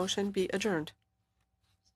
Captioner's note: speaking French